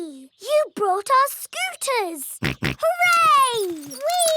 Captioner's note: snorts